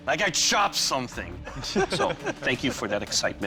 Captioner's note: laughter